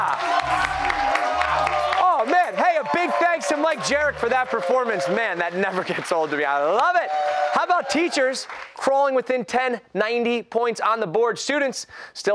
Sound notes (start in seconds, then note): 9.5 cheers and applause